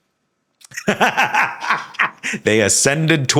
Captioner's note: Sam laughing